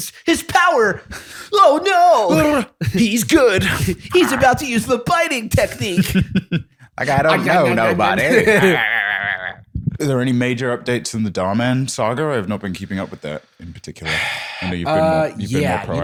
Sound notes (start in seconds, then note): 5.8 laughter; 6.6 biting noises